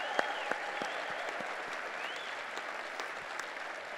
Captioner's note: cheers and applause